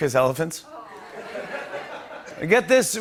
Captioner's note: laughter